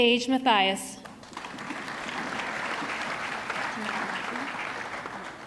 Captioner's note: audience clapping